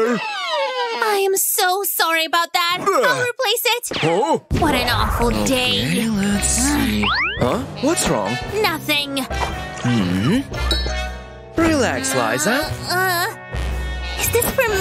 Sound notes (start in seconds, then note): 7.2 grumbles